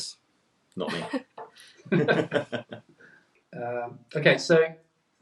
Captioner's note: man laughing